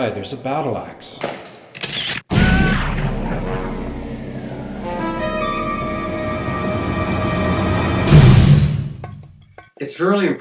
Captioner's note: mixed sound effects; dramatic music